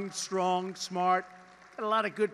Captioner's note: applause